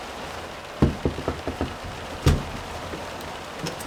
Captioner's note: knocking on van window; van door creaking open